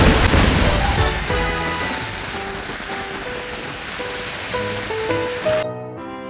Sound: rain

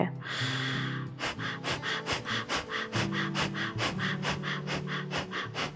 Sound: inhales sharply; puffing breaths rapidly

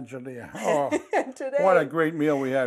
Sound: laughter

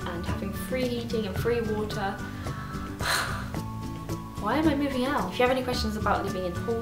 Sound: sigh

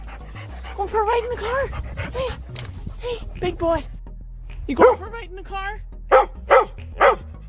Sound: dog barks

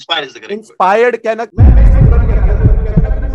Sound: continues blabbering

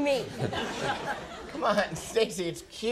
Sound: audience laughs

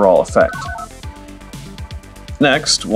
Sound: analog beeps

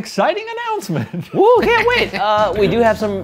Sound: laughs

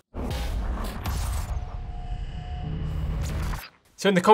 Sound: metal clashing and sparking

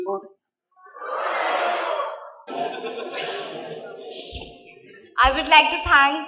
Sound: laughter

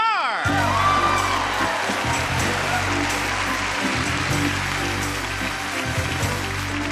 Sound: upbeat music; audience applauding

